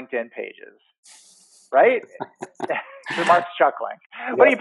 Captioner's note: laughter